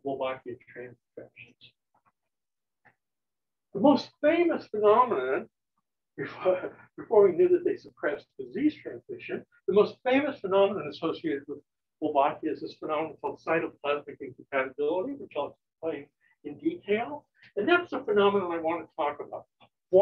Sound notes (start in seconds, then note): 6.0 chuckles